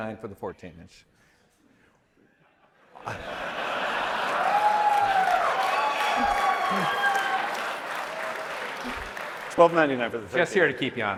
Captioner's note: laughter